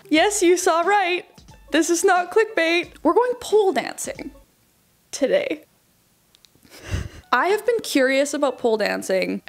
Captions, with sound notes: Yes, you saw right, this is not click bait. We're going pole dancing today. (laughing) I have been curious about pole dancing